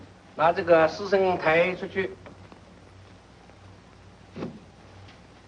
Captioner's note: speaks foreign language